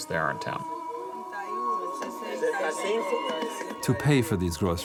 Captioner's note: workers speaking in foreign language